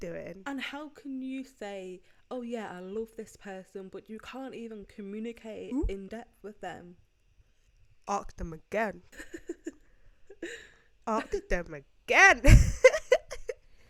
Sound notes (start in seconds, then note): 9.1 giggles; 12.4 giggles